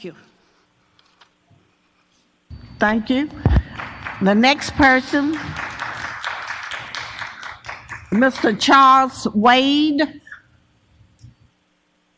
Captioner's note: applause